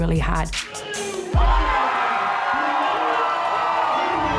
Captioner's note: crowd cheering